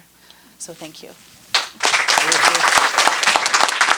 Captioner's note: applause